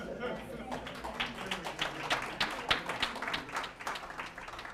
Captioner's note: applause